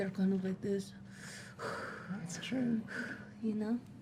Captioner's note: breathing heavily